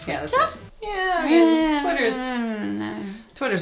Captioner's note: both groaning